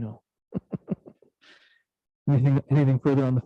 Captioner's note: laughing